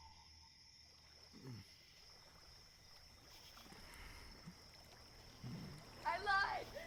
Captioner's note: water rippling